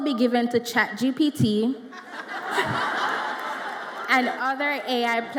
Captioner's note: audience laughs